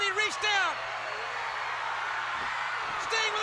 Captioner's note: crowd cheers